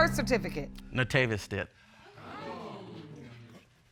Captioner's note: audience exclaim